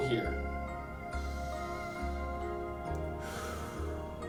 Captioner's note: inhales; exhales